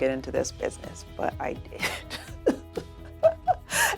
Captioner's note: laughs